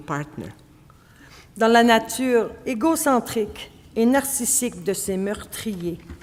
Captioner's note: speaking French